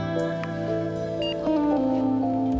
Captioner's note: telepho beeps